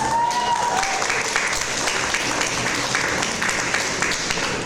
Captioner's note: audience applause